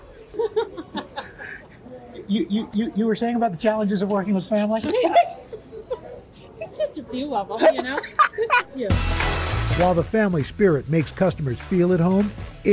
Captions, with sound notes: - You were saying about the challenges of working with family? - It's just a few of them, you know? (laughter) - While the family spirit makes customers feel at home,